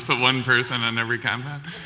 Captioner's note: laughs